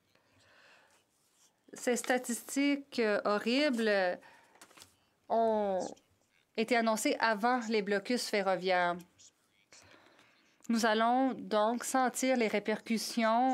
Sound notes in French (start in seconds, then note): 5.5 voix de l'interprète